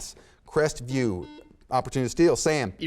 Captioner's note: buzzer sounds